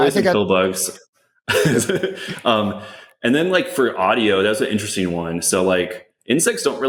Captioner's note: laughs